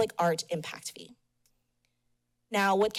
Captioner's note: pause